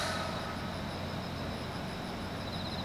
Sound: bang

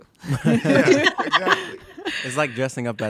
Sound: laughing

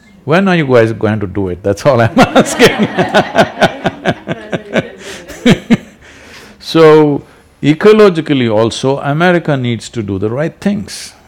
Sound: laughter

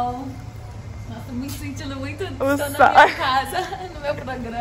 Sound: chuckles

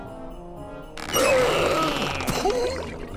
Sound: deep inhaling

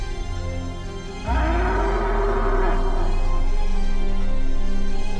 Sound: deer grunts

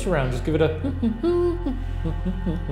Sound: hums cheerfully

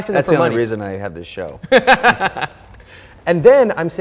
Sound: Ramit laughing

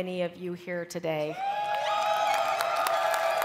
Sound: cheering

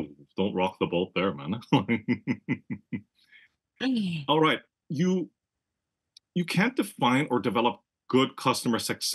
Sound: laugh

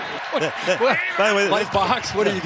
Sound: laughter

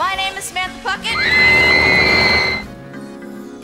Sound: screaming

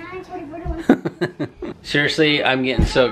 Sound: chuckling

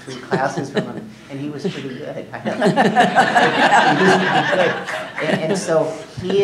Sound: laughing

